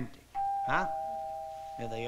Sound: doorbell rings

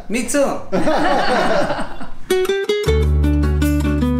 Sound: both men laugh; latin guitar music

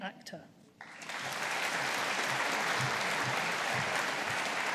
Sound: audience applauding

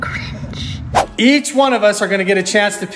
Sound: logo swipes

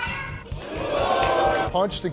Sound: audience boos

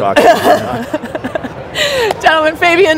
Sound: laughs

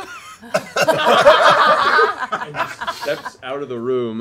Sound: laughing

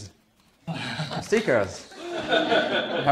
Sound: laughter

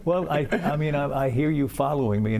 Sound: laughter

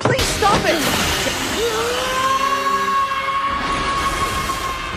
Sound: savage screaming

